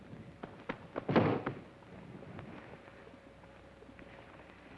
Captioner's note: foot thuds